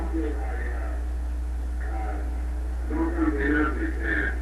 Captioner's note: announcer echoing